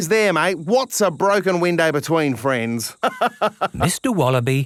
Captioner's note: laughs